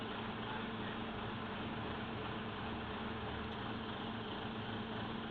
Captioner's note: idling diesel engine